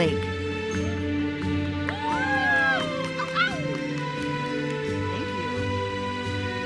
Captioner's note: audience cheers and applauds